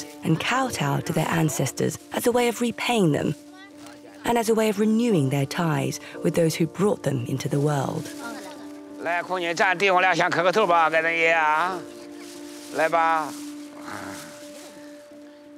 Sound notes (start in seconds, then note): 8.9 speaking Chinese